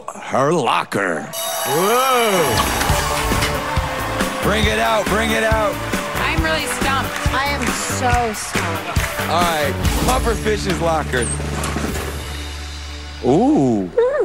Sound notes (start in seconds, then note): 1.3 bell rings